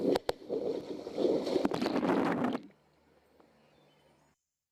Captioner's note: water sloshing